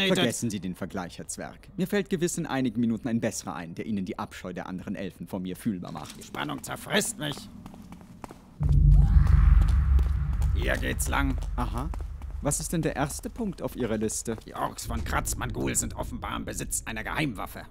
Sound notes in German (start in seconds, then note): 8.7 Ork schreit in der Ferne